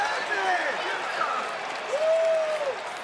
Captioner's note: crowd cheering